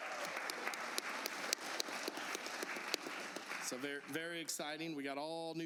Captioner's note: applause